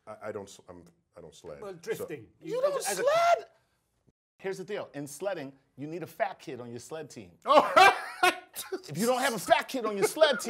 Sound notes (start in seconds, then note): 7.5 laugh